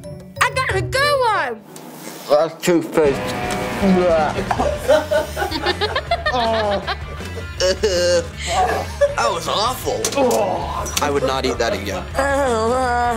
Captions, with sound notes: I got a good one! That's toothpaste! Eugh! [laughing] Eww! That was awful! I would not eat that again. [laughing]